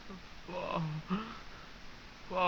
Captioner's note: gasping